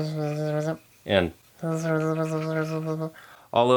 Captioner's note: unintelligible bee noises; more bee noises